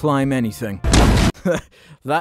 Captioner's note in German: Boom